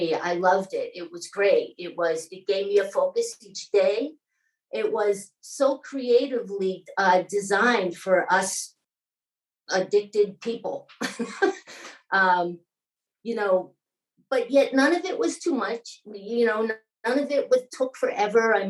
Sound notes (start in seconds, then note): 11.0 laughing